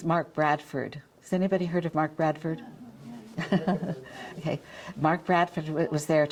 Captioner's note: chuckles